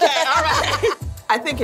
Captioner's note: laughter